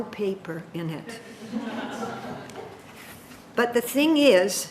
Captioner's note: audience laughing